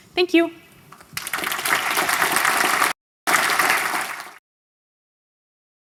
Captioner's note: applause